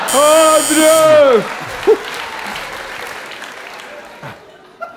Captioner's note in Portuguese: campainha